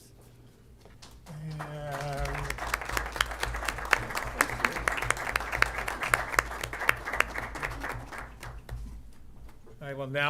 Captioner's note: applause